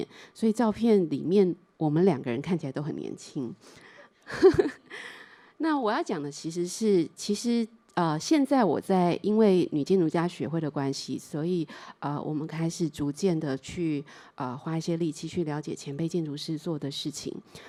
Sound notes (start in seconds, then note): 4.3 chuckles